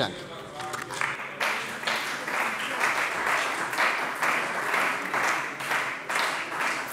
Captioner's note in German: Beifall bei der CDU und dem BÜNDNIS 90/DIE GRÜNEN